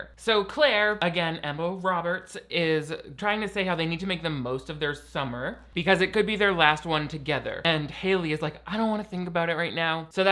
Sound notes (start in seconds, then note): none